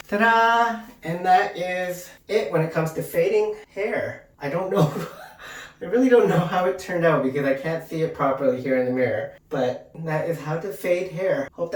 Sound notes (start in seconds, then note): 5.2 laughs